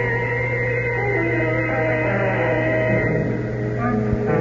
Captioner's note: sirens